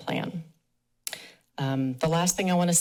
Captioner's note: pause